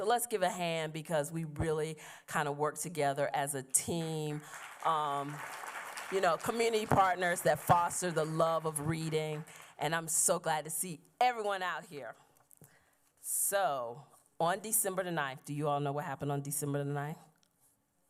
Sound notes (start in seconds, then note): 4.3 applause